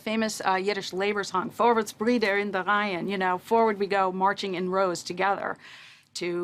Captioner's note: speaks in Yiddish